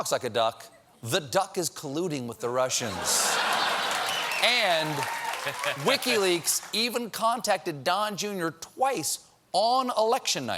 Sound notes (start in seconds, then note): 2.8 laughter; 3.0 applause